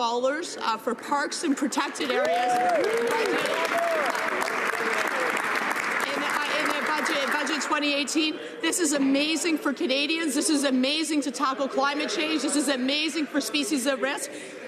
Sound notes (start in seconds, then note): 7.0 some Applause